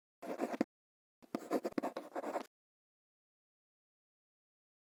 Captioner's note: quill scratching